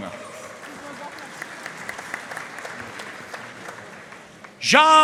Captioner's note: audience cheering and applauding